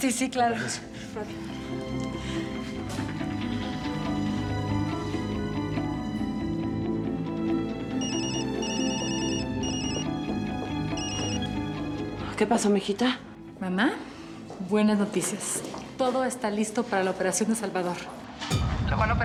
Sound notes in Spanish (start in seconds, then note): 6.4 sonido al marcar; 8.0 suena el celular